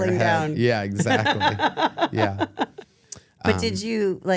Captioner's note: laughs